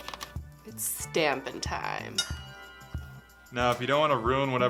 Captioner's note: bell dings